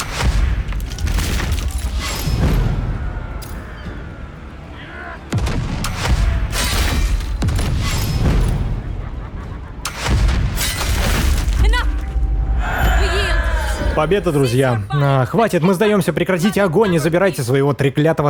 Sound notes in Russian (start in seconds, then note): 12.1 ликование; 12.2 крик